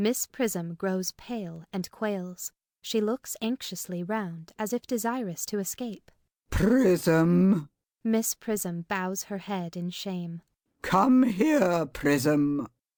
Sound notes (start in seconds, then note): 7.1 in a severe, judicial voice